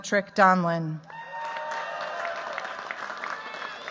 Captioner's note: cheers, applause